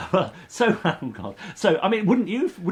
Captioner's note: laughs